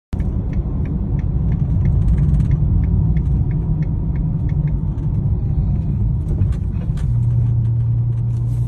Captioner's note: car turn signal; engine sound